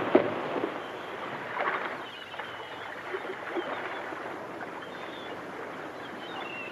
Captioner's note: water laps; seagulls caw